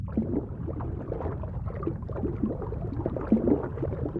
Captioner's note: water sloshes